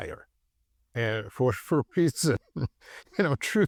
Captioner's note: chuckles